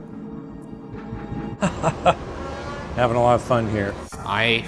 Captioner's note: laughs